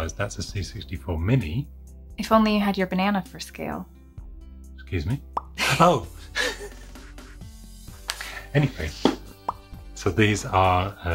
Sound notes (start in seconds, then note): 6.2 laughing